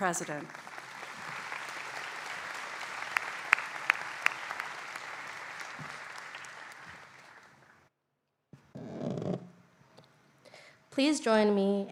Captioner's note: applause